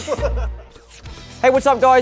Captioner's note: laughter